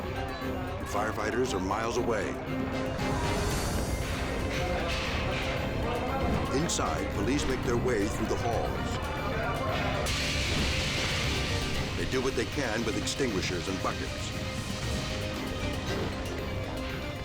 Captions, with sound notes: Firefighters are miles away. Inside, police make their way through the halls. (fire extinguisher spraying) They do what they can with extinguishers and buckets.